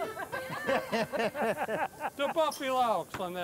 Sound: plays lively music; crowd cheers

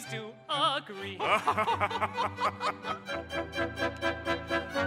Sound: all laughing

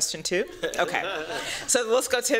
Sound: laughter

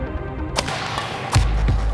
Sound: gentle electronic music; shuttlecocks being hit; dubstep music

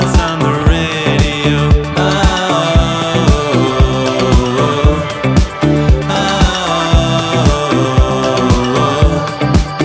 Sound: vocalizing

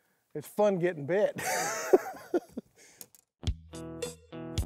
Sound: laughs

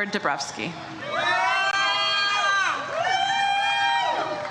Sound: audience cheers

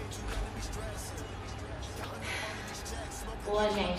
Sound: sighs

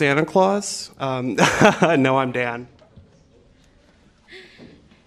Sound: laughter

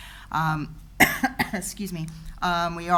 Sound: coughs

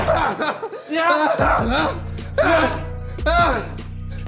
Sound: laughs

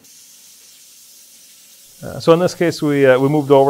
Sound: machine whirring sound

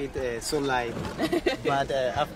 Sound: laughs

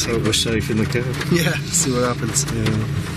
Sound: chuckles

